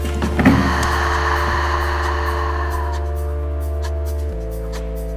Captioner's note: long breath